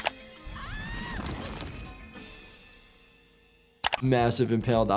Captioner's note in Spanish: persona gritando